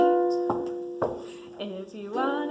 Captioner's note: feet stomping